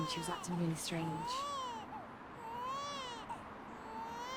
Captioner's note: baby crying